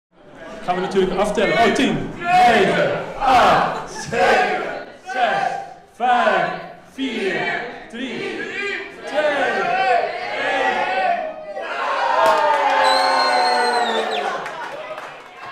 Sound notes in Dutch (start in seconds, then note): 11.9 gejuich